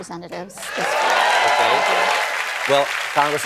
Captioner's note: cheers and applause